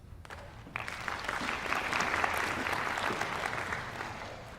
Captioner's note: applause